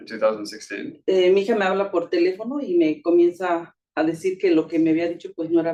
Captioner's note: speaking Spanish